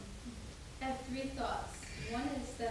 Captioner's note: woman's Voice